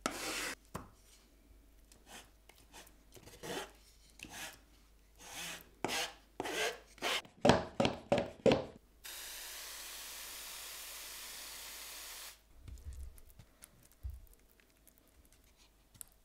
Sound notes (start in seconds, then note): 3.2 spatula scratching; 7.4 plastic pump thudding; 9.1 sprayer fizzing